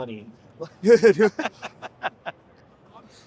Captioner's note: laughing